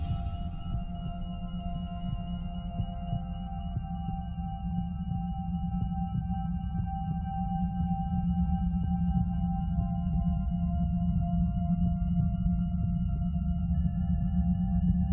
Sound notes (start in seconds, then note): 2.3 heart beating